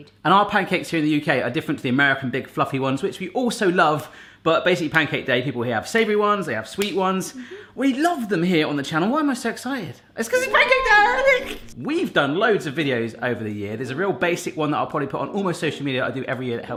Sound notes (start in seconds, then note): 10.3 shrieks